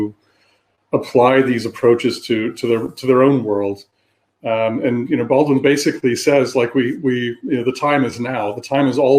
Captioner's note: erm